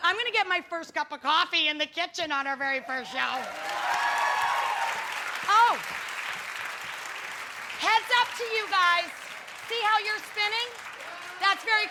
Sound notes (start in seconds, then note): 3.9 applause